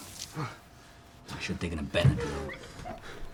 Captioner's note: shower running